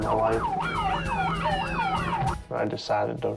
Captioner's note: police siren